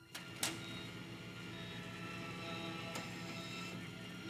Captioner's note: monitors beeping